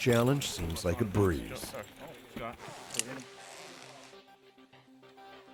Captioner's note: voiceover